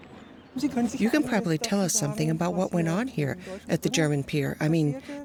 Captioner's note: woman in German